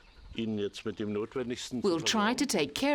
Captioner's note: speaking in foreign language